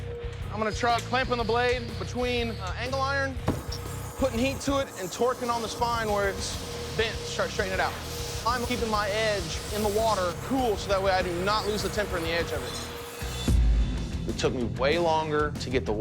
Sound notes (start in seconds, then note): none